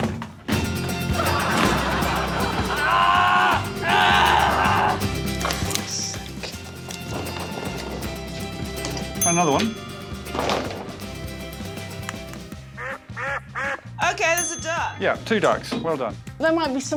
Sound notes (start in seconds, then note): 0.9 audience laughing; 3.7 grunting; 12.7 duck quacks